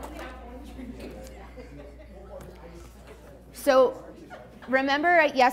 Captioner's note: class mumbling